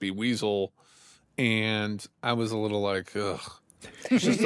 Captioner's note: groans; all laugh